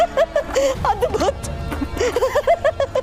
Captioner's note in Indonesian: tertawa